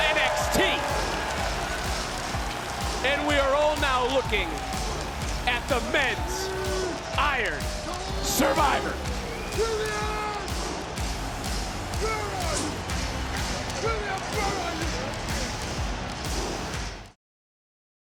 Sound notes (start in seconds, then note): 0.2 crowd applauds; 10.1 Femi roars